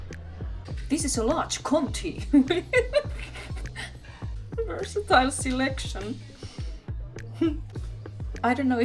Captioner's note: laughter